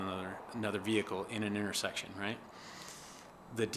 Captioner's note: sounds of vehicles driving on road